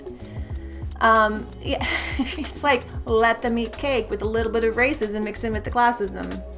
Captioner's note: giggle